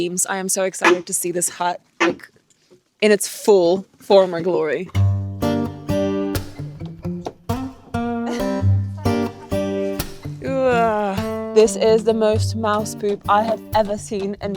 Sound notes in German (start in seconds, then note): 5.0 Fröhliche Musik; 9.8 Mäusekot rauscht